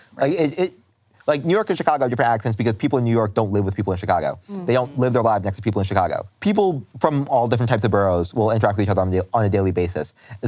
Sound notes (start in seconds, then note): none